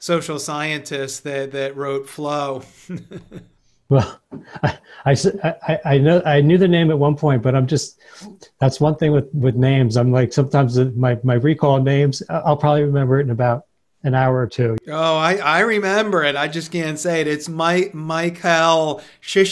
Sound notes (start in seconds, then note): 2.6 chuckles; 2.7 laughs